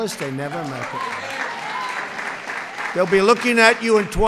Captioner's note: applause